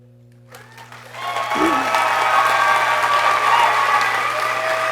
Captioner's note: people cheering